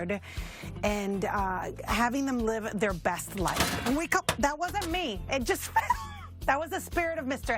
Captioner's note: crashing sound